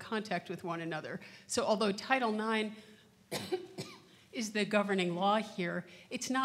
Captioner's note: coughs